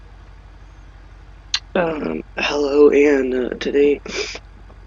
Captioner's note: sniffle